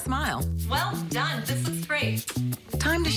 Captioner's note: kiss